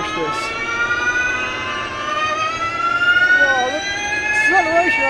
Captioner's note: engine revving